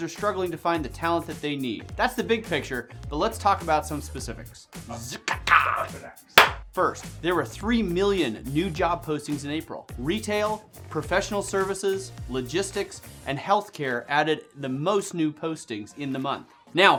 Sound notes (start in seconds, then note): 4.7 vocalizes; 6.4 claps